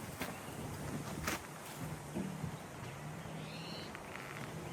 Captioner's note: birds chirping